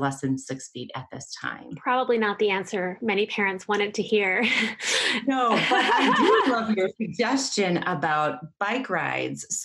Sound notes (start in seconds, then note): 5.5 laughter